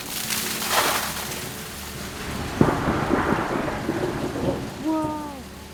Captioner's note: the falling ice almost sounds like thunder as it reverberates